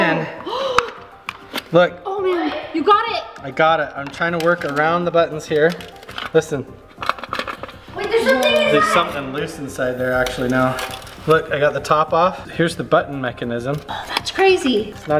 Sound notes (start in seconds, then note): 0.0 metal clicks and scrapes; 6.9 objects rattle